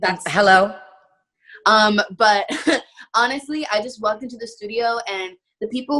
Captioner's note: chuckling